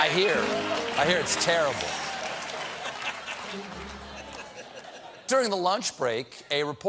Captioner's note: laughter